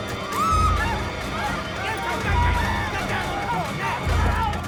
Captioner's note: screaming